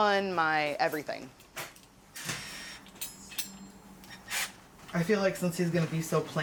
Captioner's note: tool whirring